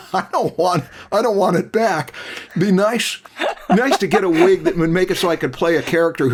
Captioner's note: laughs